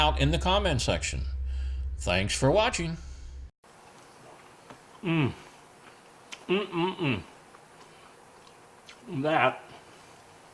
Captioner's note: yummy sounds from testing the chicken